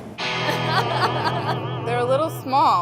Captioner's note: laughing